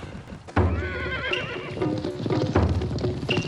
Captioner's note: horses neighing